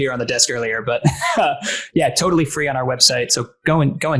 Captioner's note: laughs